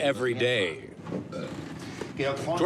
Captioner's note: burps